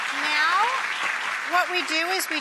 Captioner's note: audience applause